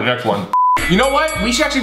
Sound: beep

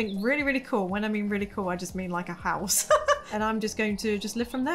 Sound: laughs

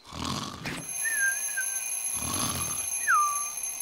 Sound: ringing

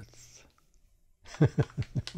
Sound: laughs

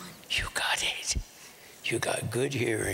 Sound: whispering

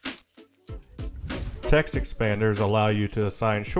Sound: air whooshing

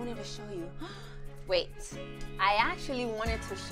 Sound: gasps

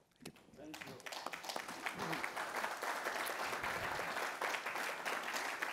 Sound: participants applaud

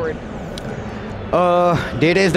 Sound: crowd murmuring in the background

